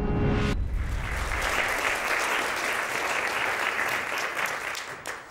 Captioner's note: audience applauding